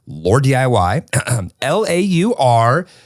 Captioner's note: clears throat